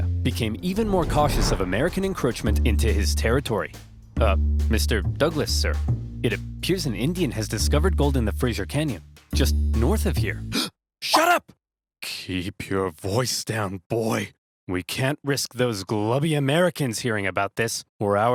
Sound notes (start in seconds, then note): 11.1 gasps